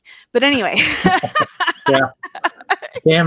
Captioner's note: laughter